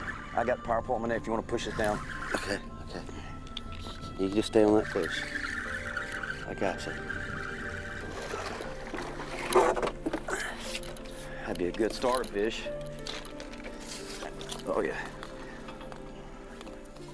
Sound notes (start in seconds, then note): 7.3 line reeling; 8.1 water splashing